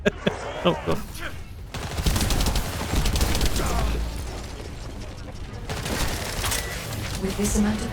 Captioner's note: laughing